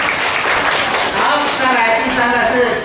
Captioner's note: applause